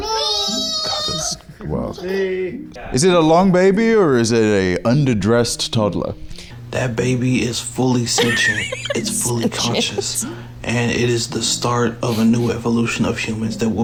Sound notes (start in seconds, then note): 8.0 laughs